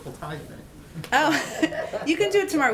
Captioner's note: laughter